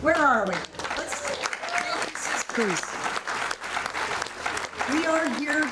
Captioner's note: audience applauding and cheering